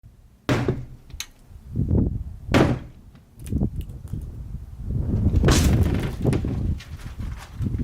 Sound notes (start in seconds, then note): 0.4 wood thumping